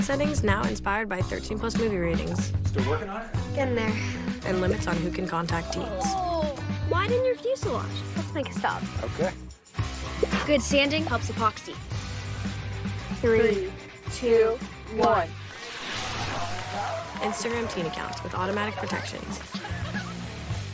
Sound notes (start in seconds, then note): 15.5 rocket blasting; 16.2 people cheering